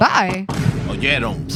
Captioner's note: non-english Speech